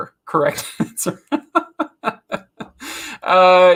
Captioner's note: laughs